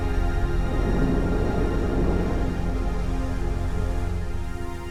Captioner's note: rocket whooshing